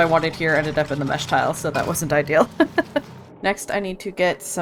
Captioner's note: laughs